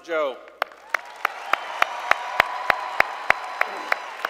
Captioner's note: applause